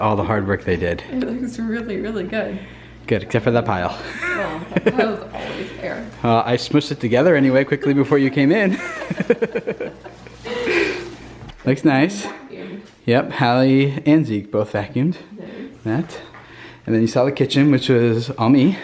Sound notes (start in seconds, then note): 8.6 laughter